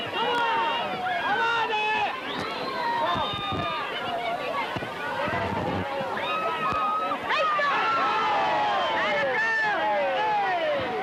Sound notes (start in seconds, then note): 3.9 lively chatter; 7.8 cheers